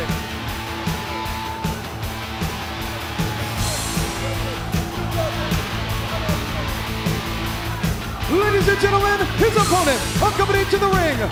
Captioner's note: crowd chatter